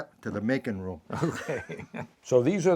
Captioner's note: laughing